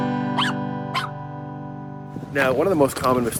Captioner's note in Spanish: música de piano; el perro ladra